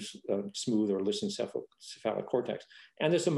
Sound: speaking faintly

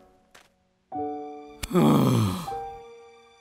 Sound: sigh

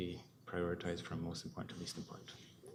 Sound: whispering

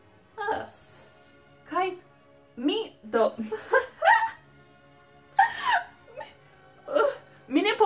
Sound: laugh

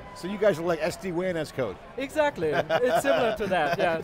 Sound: laughs

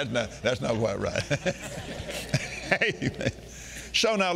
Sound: Kenneth laughing

